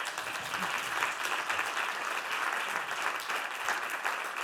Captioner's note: Aplodeja